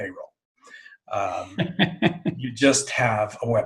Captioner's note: chuckling